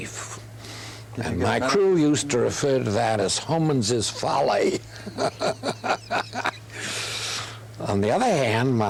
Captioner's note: laughter